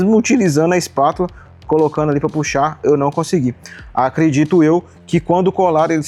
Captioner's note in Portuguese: limpando a garganta